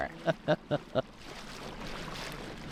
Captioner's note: chuckling